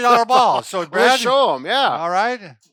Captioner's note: laughs